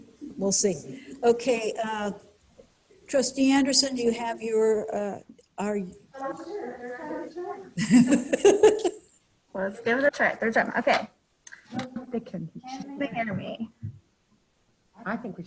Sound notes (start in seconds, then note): 7.7 laughs loudly